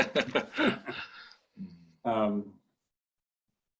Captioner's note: laughing